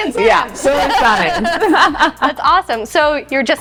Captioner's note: laughing